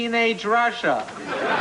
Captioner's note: laughter